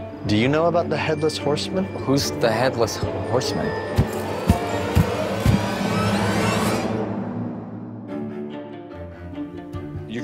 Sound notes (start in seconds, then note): 4.2 footsteps and spooky music